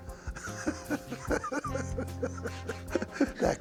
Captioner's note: laughing